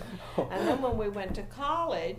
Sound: laughs mischievously

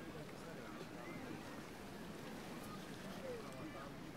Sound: quiet ambient crowd sounds

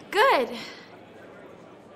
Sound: none

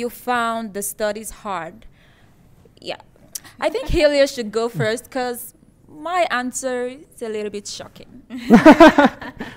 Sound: laughter

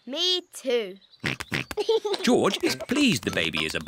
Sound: snorts and giggles

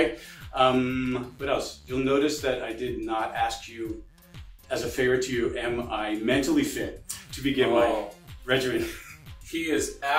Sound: laughing

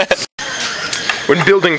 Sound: laughs

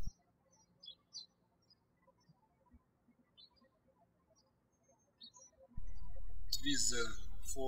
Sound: birds chirping

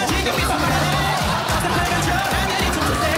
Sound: laugh

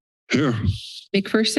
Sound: heavy breath

